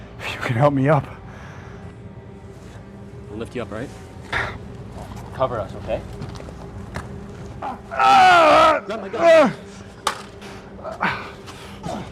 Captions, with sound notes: If you can help me up. We'll lift you up alright? Cover us okay? [screams in pain] Grab my gun!